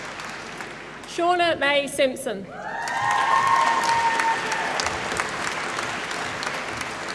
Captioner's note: applause